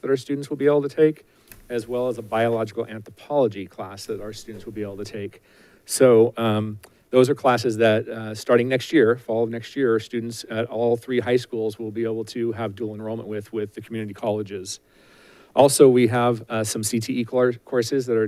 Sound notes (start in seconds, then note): none